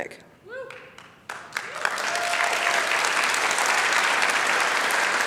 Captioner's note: applause